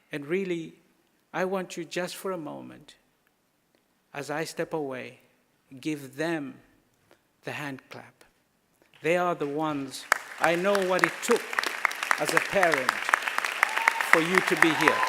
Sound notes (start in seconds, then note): 9.5 thunderous applause